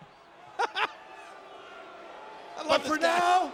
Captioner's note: laugh